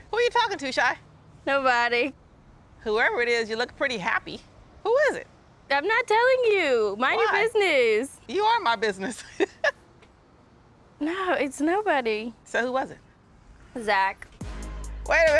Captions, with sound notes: who are you talking to, Chey? - Nobody. - Whoever it is, you look pretty happy. Who is it? - I'm not telling you. - Why? - Mind your business. - You are my business. (laughs) - No, it's nobody. - So who was it? - Zach. (gentle suspenseful music)